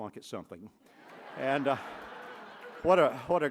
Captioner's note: laughter